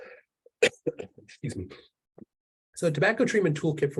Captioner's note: presenter clearing throat